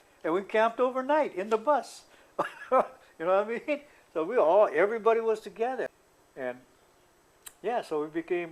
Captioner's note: laughter